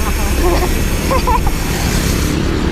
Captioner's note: laughs